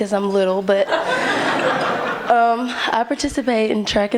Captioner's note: laughter